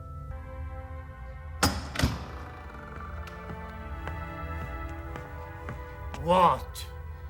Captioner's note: door opens and footsteps approach